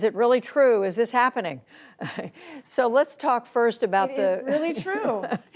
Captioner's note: laughter